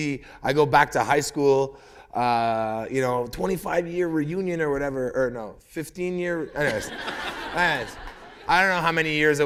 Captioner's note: laughter